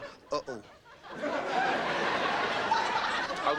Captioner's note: audience laughing